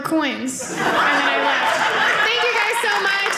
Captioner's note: audience laughing